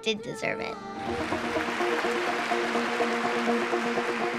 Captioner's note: applause